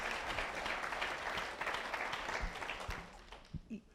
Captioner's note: applause